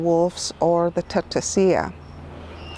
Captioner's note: speaks in foreign language